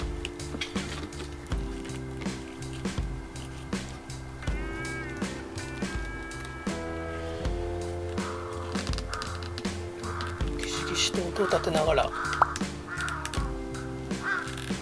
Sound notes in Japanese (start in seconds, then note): 10.6 木がギシギシと音を立てています。